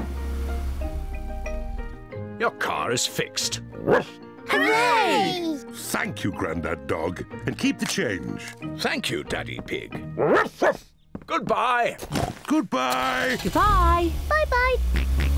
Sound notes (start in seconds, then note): 3.8 barks; 10.2 oinks; 10.2 barks